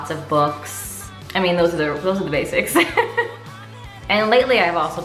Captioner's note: laughs